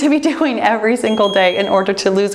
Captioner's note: bell chimes